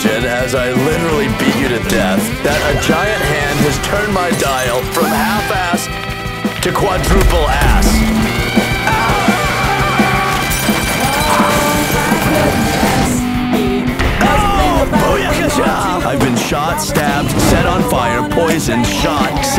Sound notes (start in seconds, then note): 7.1 gunfire; 8.1 shouting; 10.2 gunfire; 11.2 crashing; 13.7 gunshot